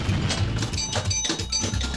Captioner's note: pinball clanking